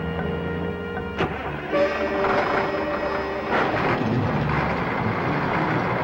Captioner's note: engine sputters and starts